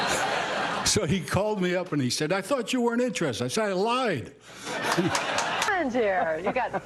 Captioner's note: laughter